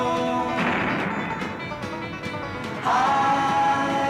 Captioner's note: rock thuds